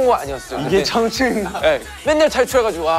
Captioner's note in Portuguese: Haha